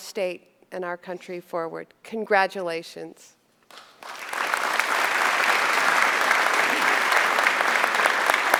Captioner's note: applause